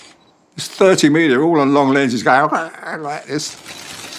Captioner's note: camera snapping